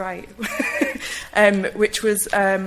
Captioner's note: laughs